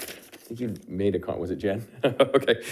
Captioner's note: laughs